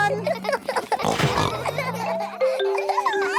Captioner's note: all laughing; giggles, snorts